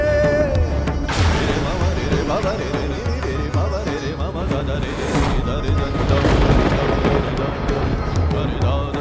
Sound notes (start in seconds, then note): 5.8 thundering